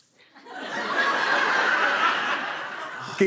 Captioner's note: laughter